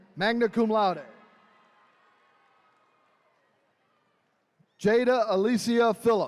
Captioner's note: attendees cheering